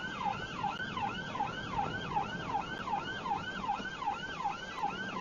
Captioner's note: police car siren